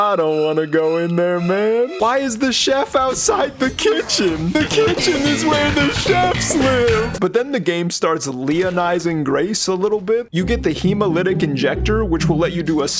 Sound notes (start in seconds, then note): 4.3 scared voice